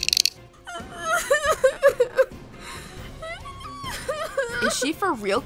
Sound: crying

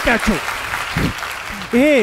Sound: applause

